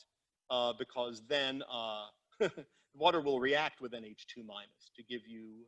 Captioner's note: chuckles